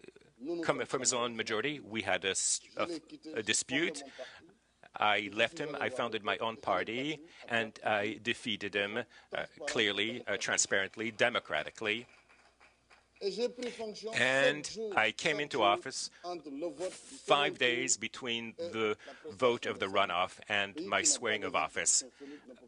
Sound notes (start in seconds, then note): 13.5 applause